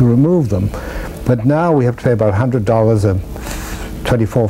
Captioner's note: inhales